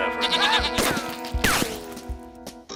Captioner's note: screaming